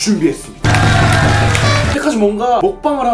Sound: clap sound

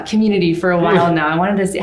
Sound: chuckles

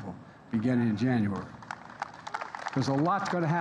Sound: applause

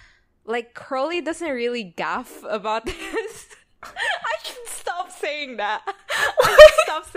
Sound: laughs

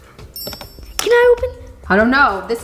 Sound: bell ringing

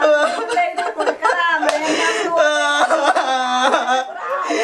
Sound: crying continues

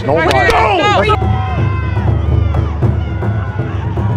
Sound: cheering

